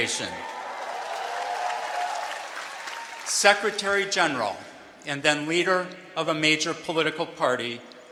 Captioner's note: cheering